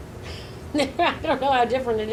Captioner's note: laughing